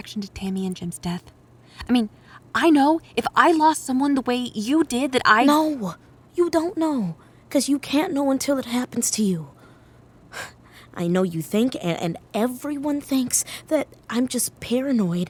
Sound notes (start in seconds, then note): 0.0 whispered; 5.3 interrupting, whispered; 10.2 sighs